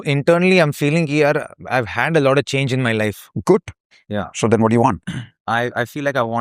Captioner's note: clears throat